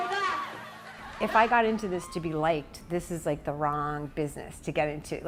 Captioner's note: cheers and applause